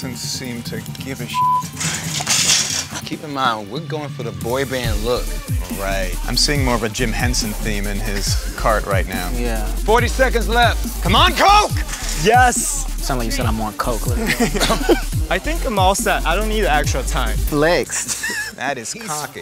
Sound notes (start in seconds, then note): 13.0 laugh